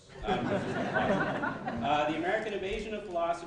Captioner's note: laughing